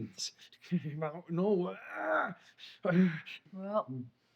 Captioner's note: groans